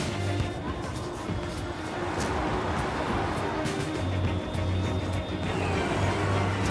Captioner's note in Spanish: Algarabía de la calle